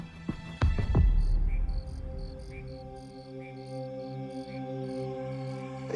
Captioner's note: crickets chirping